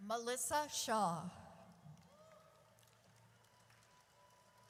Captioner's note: audience cheers